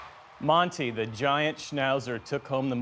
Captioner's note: cheering